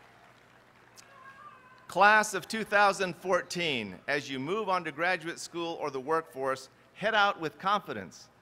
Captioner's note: applause